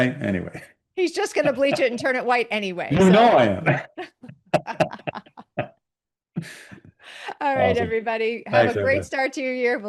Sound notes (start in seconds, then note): 3.5 both laughing